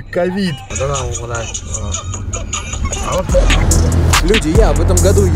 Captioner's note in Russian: разговор на сомалийском